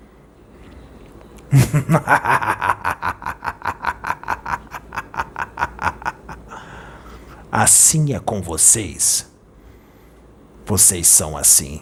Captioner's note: laugh